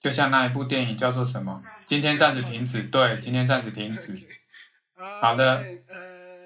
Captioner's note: laughs